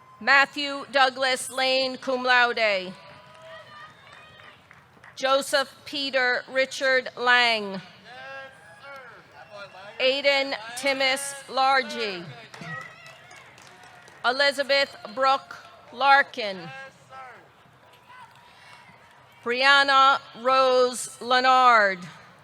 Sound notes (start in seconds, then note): 3.0 audience cheering; 3.0 audience clapping; 8.2 audience cheering